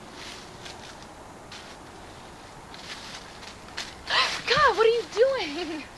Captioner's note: leaves crunching; gasp